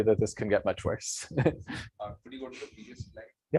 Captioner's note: laughs